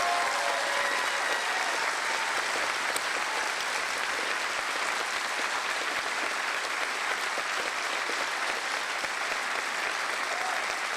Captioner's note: cheering and Applause